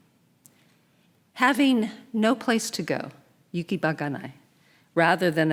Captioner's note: speaking in Japanese